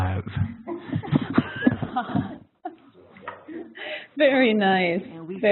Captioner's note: laughter